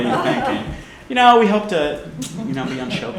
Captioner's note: laughter